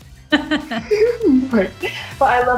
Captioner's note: laughs